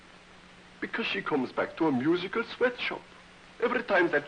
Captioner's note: whispering